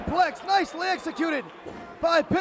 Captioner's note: crowd chatter; crowd cheering